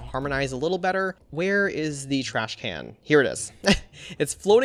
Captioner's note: chuckles